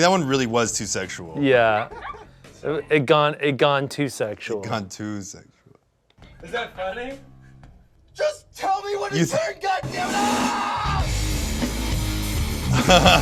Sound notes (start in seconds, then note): 9.9 screams; 11.4 heavy metal music